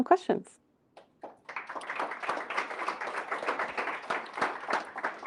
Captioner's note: applause